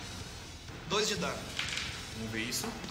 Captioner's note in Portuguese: Dados rolando